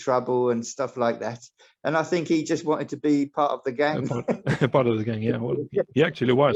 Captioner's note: laugh